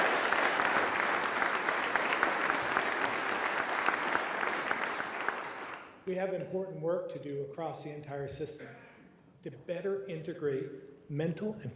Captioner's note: applause